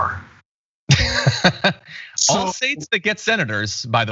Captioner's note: laugh